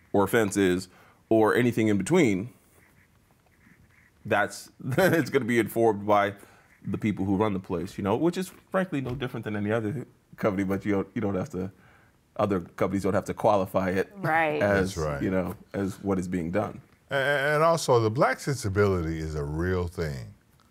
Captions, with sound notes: or "Fences" or anything in between, (laughs) it's gonna be informed by the people who run the place, you know, which is frankly no different than any other company, but you don't have to... Other companies don't have to qualify it, you know, as what is being done. - And also, the black sensibility is a real thing.